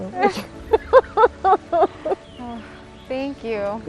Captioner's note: both laughs